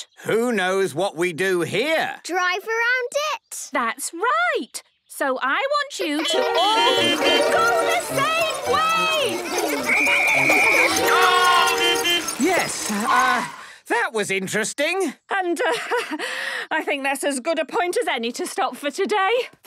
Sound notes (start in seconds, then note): 6.2 beeping; 9.9 whistle blowing; 11.8 beeping